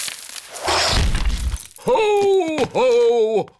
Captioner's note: thuds